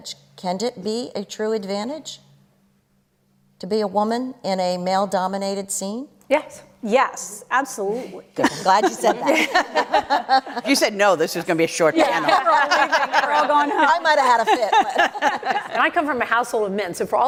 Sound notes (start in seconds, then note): 12.0 laughter